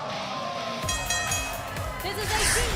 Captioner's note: bell ringing